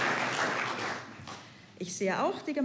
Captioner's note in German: Applaus